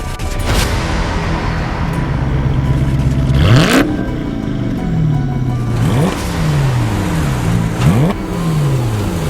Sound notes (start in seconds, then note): 3.1 engine roaring